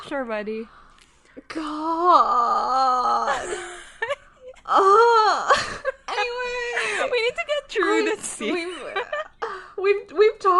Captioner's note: both laughing